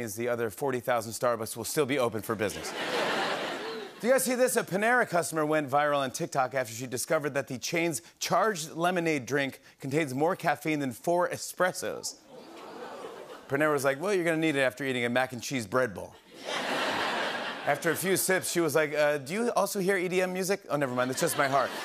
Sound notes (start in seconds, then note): 2.5 laughter; 12.0 audience "Oohs"; 16.2 laughter